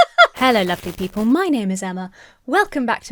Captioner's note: laughing